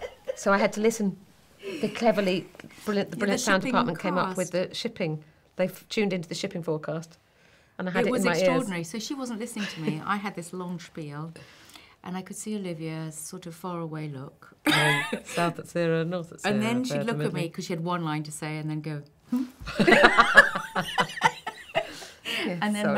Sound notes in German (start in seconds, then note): 15.7 Roboterstimme; 19.6 lachen